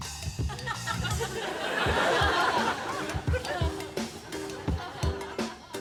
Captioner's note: laughter